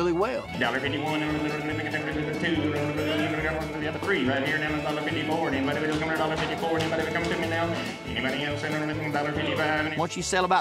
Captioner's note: continues auctioneering